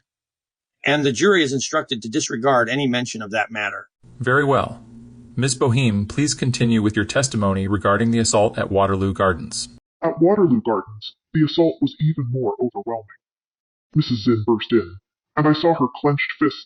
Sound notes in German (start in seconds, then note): 10.0 verzerrt